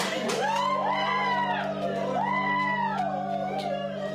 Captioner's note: whooping continues